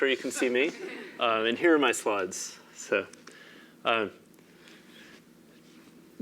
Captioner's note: laugh